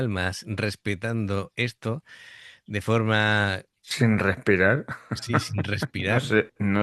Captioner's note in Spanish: risas